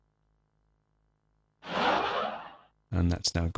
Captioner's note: sound effect